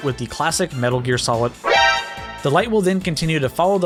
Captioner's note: alert Sound Effect